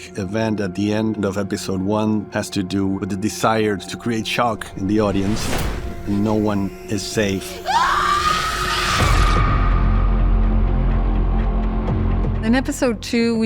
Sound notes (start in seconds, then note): 7.5 screams; 8.9 ominous music playing